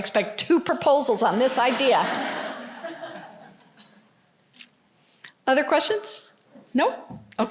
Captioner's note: laughter